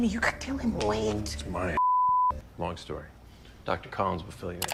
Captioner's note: beep